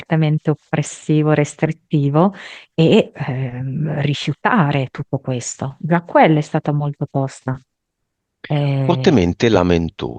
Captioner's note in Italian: schiarire la voce